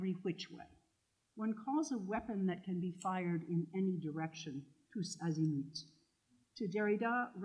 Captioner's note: french